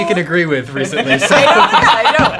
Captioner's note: laughing